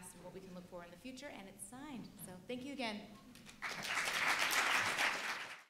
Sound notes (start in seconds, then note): 3.4 audience applauds